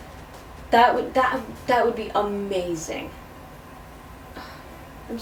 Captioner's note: stuttering the word "that"